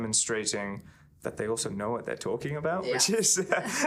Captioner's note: laughing; chuckling